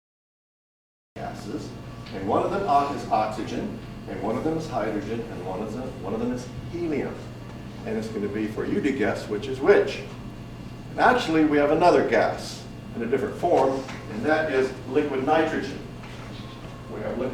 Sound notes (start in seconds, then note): none